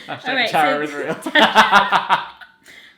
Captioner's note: laughter